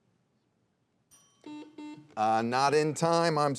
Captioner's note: buzzer beeps